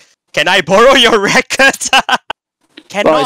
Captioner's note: laughs